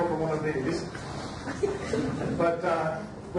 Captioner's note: audience laughs